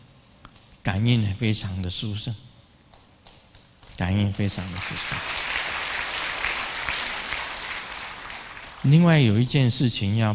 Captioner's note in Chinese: 眾鼓掌